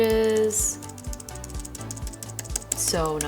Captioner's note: keyboard keys clicking